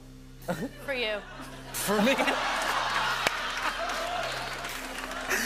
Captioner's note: laughter